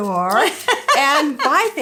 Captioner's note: laughs